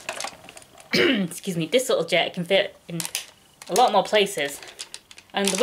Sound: ahem

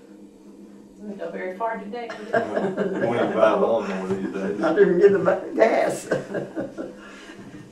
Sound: laughter

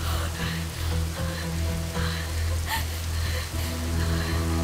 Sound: shivering and panting

